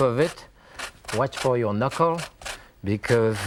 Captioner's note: fruit rasps